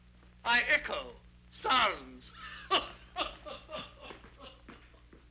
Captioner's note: laughs